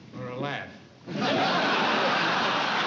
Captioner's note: laughter